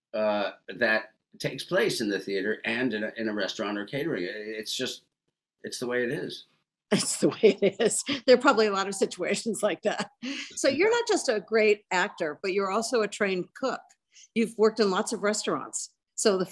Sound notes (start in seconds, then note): 7.0 laughs